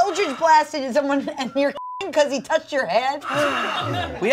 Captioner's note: beep